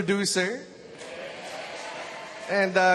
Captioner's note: audience cheers